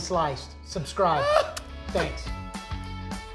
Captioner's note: laughing; upbeat rock music